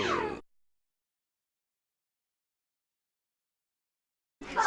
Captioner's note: silence